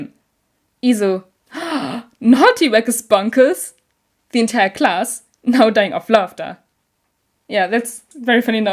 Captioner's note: gasp!